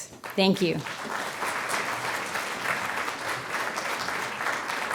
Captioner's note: crowd applauds